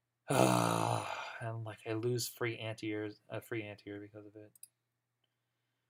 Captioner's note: frustrated sigh